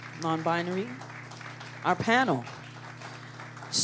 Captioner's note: applause